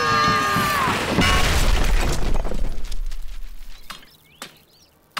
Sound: screaming; crashing; birds chirp

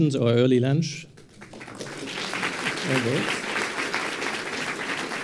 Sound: applause

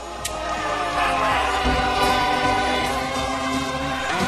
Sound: crowd cheering

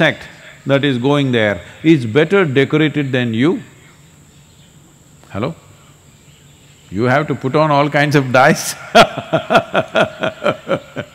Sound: laughs

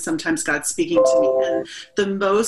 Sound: notification chimes

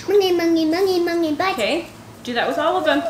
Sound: vocalizing

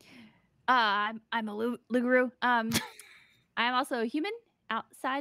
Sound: laughs

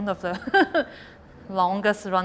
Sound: laughs

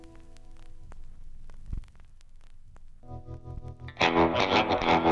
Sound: record vinyl crackles; keyboard clicks

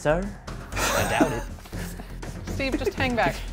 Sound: laughing

